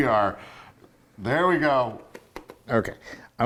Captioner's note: laugh